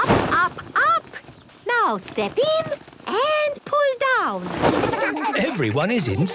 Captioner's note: laughter